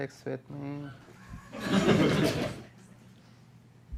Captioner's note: laughter